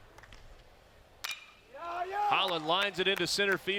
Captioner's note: ball hitting bat